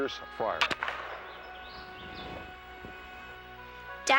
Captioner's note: gunshot